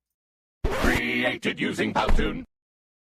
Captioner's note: electronic voice